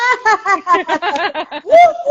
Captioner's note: laughing